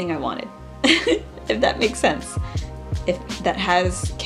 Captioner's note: laughs